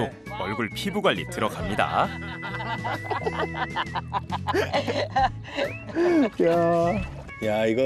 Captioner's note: laughter